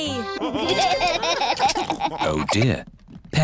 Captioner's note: laughter